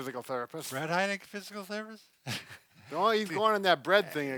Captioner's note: laughs